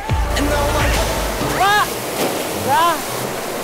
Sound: splash

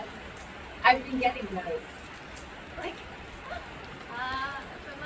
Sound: laughs

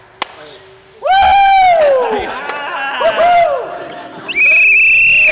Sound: laughter and whistling

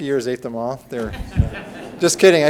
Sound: audience laughs

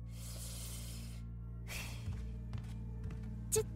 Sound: deep breath

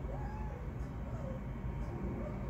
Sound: mrrrao

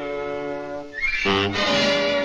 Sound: honk

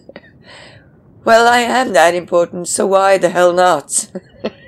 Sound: laughs

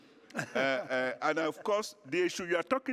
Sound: laughter

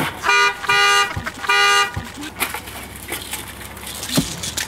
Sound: horn honking

